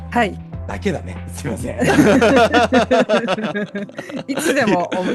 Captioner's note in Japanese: 笑い